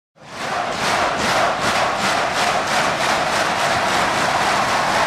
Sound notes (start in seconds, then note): 0.2 crowd chanting